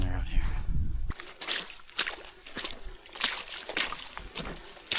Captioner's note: water splashing